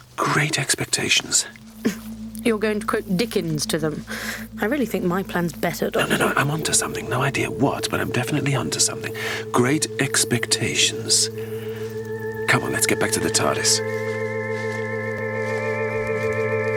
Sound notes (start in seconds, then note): 1.8 chuckles